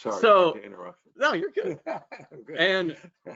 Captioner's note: laughs